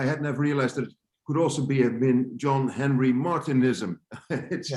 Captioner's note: laughs